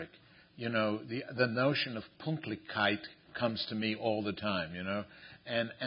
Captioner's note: non-english